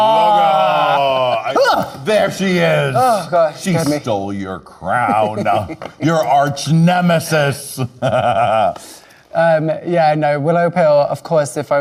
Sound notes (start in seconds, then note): 7.9 laughing